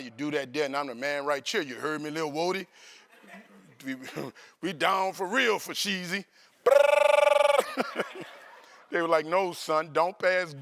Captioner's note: trills